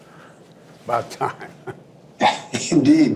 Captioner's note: laughs